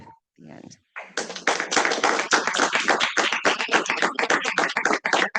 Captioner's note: audience applauding